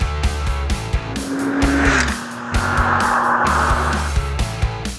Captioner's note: motorcycle revving over music